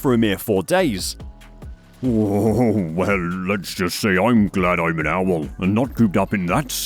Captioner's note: chuckles nervously